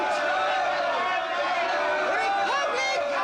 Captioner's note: angry shouting